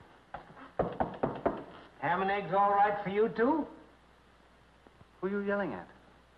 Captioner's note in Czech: Klepání